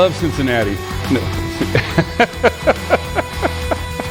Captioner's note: laughing